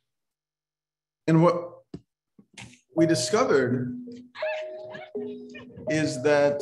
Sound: laughter over video

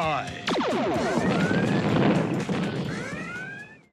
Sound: cannon fires; explosion booms

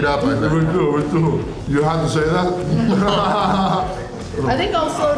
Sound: laughter

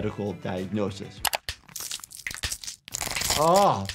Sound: bones crunch

